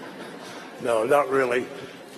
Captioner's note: laughter